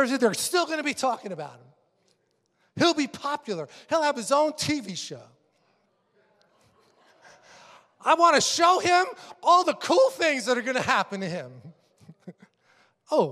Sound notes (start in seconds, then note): 6.5 congregation laughing